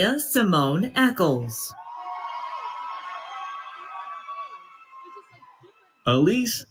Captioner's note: applause